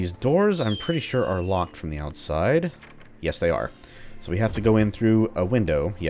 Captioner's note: doorknob jiggles